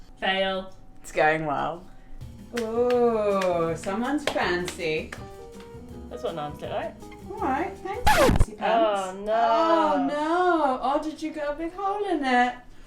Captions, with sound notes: Fail. It's going well. Uh, someone is fancy... That's what naans look like Alright fancypants [scratch record sfx] Oh noo... Oh did you get a bit cold in there?